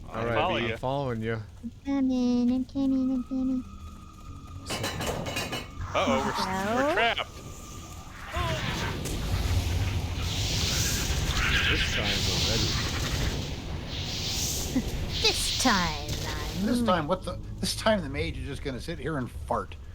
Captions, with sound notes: - I'm following you. - I'm following you. - I'm coming, I'm coming, I'm coming. - Uh oh, we're trapped. (explosion) - This time, already. - This time, I'm-- - This time, what the, this time the mage is just gonna sit here and fart.